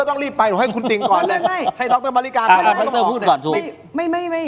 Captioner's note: laughs